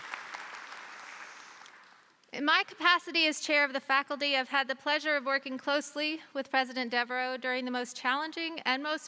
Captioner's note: applause